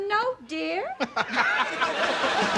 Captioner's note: laughing